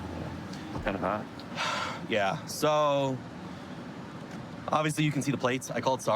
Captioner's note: sighs